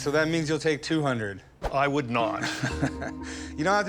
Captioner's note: chuckles